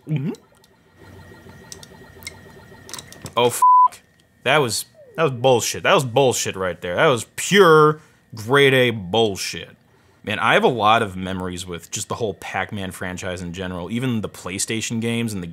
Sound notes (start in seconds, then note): 0.0 gulp sound; 3.4 beep